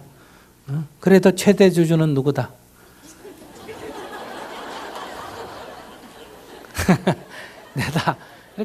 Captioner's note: audience laughter